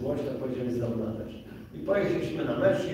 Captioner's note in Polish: none